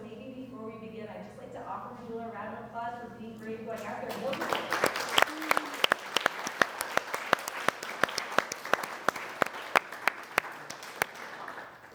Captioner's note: applause